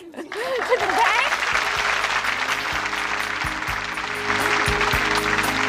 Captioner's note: applause